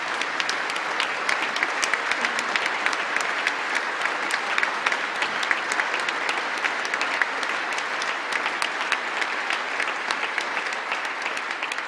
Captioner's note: applause